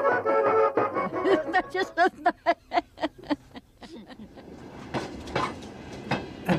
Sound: laughs

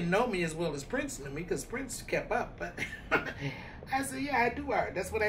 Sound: laughing

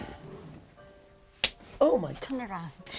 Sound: slaps

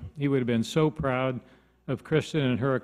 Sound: none

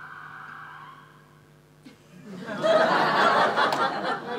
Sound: sound of siren coming to sudden stop

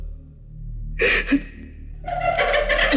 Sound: sobbing

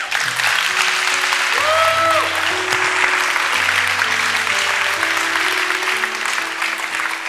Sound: congregation applauding; congregation cheering

